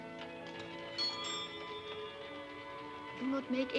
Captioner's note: doorbell ringing